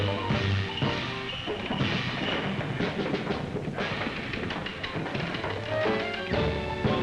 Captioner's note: swanky music; scuffling